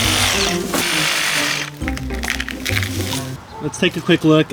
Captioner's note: energetic music; power saw sawing